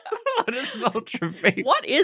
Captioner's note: laughter